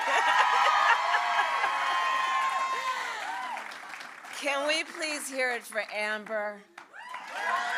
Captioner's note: applause